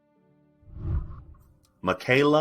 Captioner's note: whooshing